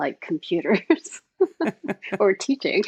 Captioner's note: both laughing